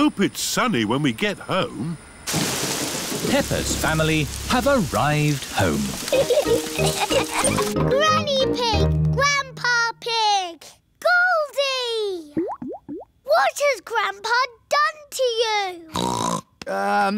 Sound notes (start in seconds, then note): 6.1 laughter; 16.3 snorts